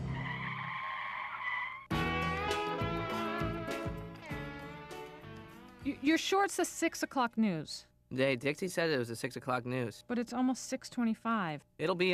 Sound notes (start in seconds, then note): 0.0 whistling tune; 0.0 tires skid